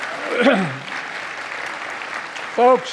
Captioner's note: applause